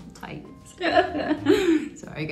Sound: laughs

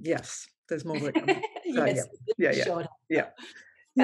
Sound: laughs

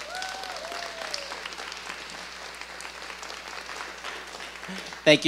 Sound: audience applauding

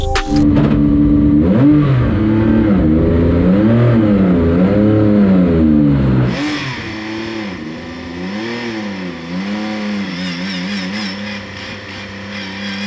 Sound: engine Starts; engine Revving

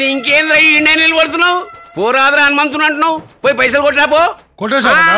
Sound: confident

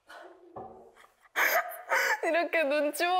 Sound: she can't stop laughing

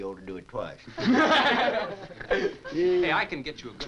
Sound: laughing

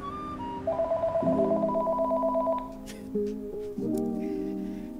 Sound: phone ringing

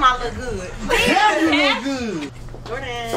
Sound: male Voice

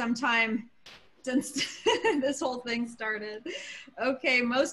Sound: laughter

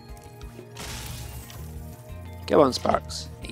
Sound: chest cracks

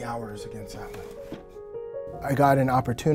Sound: box clunks

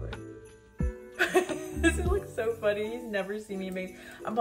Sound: laughs

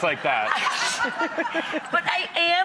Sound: laughing

